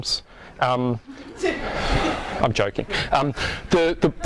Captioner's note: audience laughs